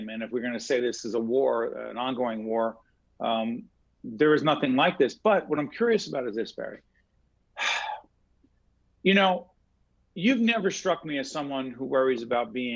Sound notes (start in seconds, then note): 7.6 sigh